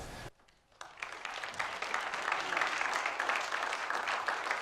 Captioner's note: applause